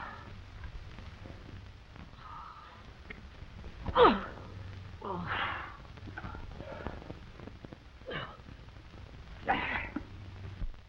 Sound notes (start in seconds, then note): 5.0 Nate groans